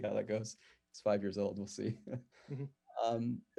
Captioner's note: chuckles